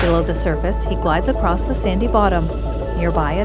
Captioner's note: water splashing; scuba gear gurgling; scuba gear hissing